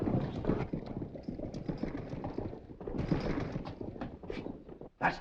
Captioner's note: horses cantering